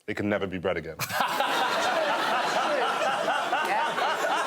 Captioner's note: laughter